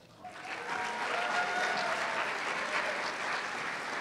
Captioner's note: cheers and applause